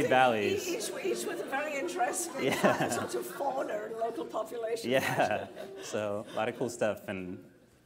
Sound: laughter

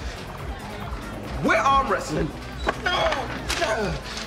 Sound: sounds of exertion

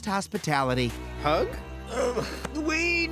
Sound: groans

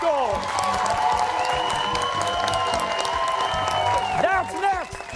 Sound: cheers and applause

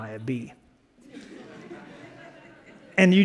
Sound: laughter

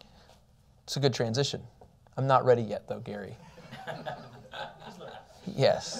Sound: laughter

